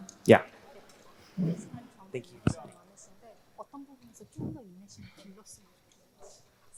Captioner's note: both speaking in foreign language